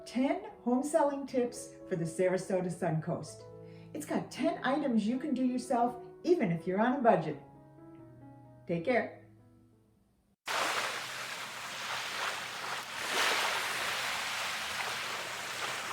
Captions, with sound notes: 10 home selling tips for the Sarasota Suncoast. It's got 10 items you can do yourself even if you're on a budget. Take care. (water splashing sounds)